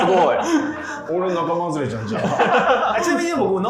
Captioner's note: laughing